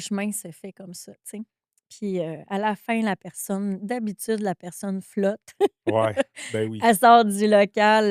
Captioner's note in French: rires